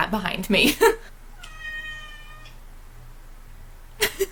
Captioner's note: meow